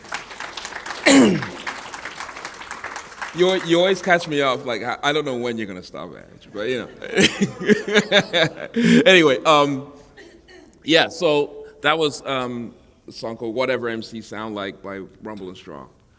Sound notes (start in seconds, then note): 1.5 applause; 7.1 chuckle